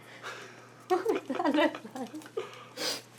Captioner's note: laughs